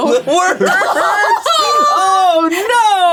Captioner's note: all laughing